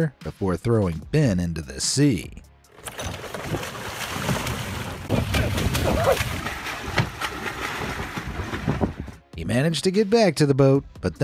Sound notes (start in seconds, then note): 2.7 water splashing